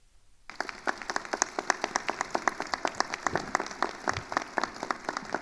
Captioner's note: attendees applauding